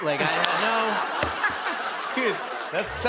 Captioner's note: laughter